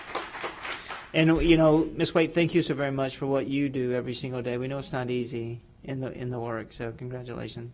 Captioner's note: applause